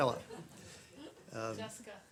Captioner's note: laughter